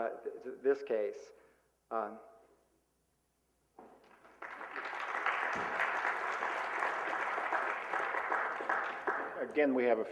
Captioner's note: applause